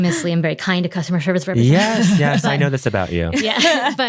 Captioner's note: chloe laughing